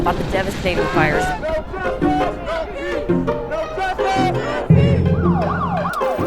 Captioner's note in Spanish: personas manifestándose